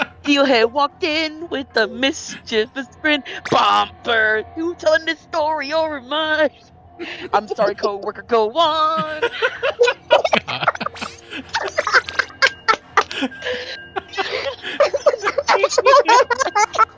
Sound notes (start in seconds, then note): 9.9 laughing; 12.6 deep breath, laughing